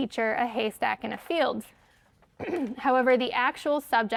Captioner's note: clears throat